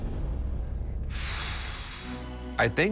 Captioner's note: exhales